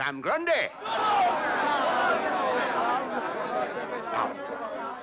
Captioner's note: audience cheering